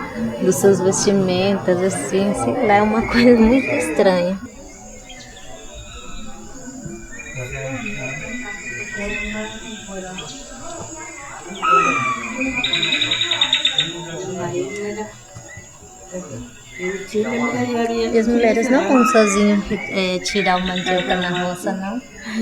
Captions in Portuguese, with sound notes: Das suas vestimentas, assim, sei lá. É uma coisa muito estranha. [Som de passáros] [Vozes] E as mulheres não vão sozinhas, tirar a mandioca na roça, não.